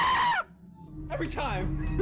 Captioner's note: screams